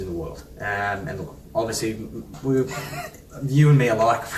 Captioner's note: laughs